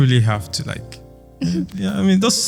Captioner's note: laughs